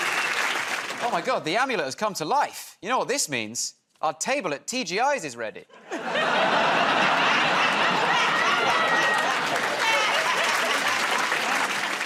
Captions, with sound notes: -Oh, my God. The amulet has come to life. You know what this means. Our table at TGI's is ready. [ Laughter ] [ Applause ]